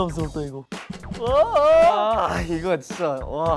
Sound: worried

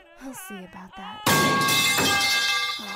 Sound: loud crash

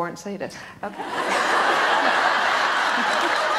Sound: audience laughs loudly

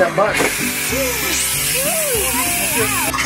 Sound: hissing

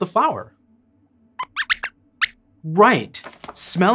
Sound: squeaks squeaks

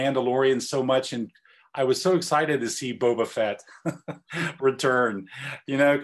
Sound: laugh

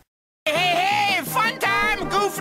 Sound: Master Shake from "Aqua Teen Hunger Force" Voice

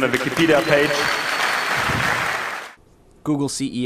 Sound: applause

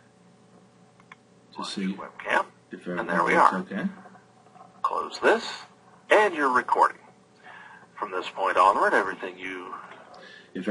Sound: recording playback

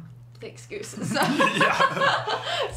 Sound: laughs

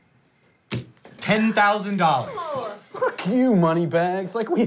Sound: groans

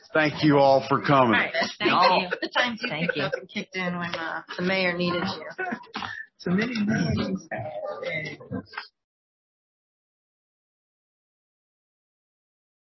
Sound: councilors chatting with each other

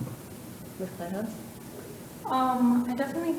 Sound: board member faintly speaking

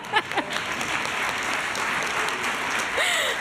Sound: laughter; applause

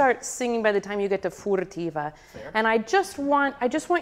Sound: speaks in foreign language

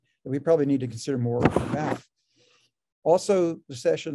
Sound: rasping interference drowns out speaker

